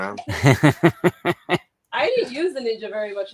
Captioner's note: laughs